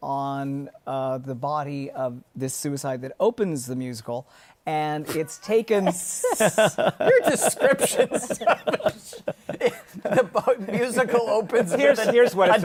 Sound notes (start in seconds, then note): 5.8 laughter